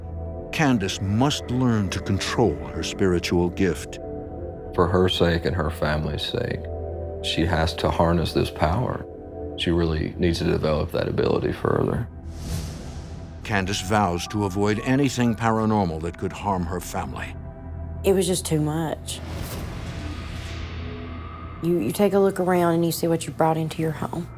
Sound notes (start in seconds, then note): 19.2 swooshing